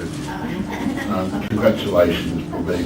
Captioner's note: chuckles